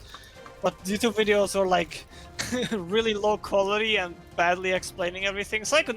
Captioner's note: laughs